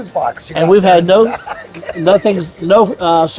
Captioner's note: laughing